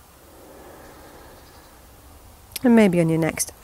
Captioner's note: inhaling